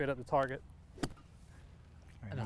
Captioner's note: golf club thwacking